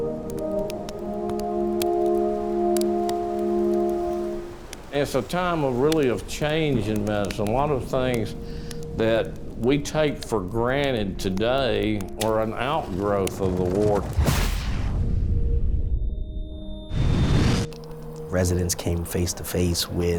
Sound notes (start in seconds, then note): 14.1 air whooshing; 14.1 explosion booming